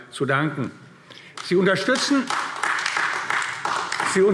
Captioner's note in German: Beifall AfD